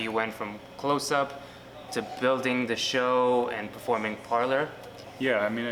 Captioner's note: none